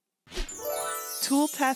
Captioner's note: glittery whoosh